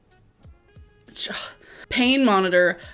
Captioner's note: exhales